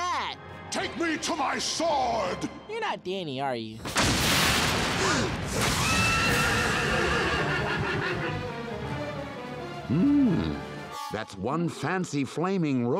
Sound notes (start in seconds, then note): 3.6 thudding, gasping; 6.4 neighing